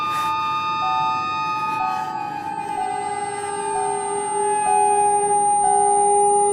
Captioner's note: seat bealt warning chiming